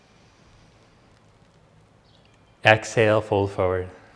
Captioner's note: inhales deeply